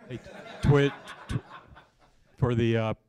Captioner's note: laughter